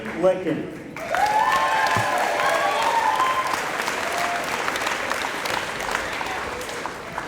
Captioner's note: applause